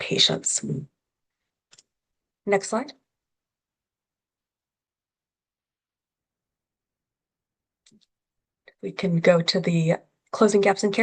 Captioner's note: pause